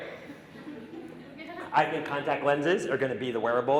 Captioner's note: audience laughing